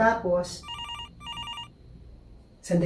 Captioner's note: cellular phone rings